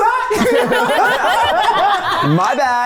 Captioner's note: everyone laughs